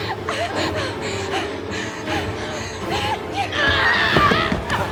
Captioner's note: hard breathing; groaning